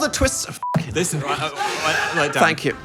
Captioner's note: beep